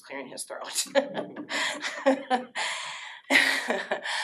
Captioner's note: laughter